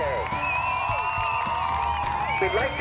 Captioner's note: hands clapping; spectators cheering